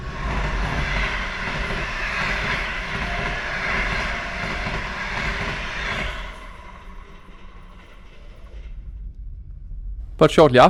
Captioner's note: train passing at speed